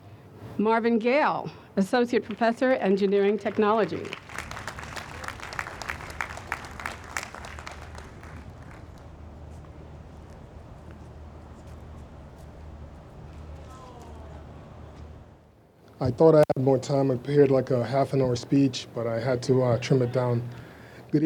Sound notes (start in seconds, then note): 4.6 audience applauds